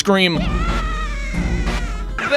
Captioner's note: Luigi pees his pants and screams